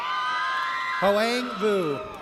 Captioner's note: audience cheers